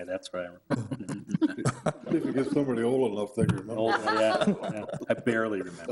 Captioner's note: all chuckling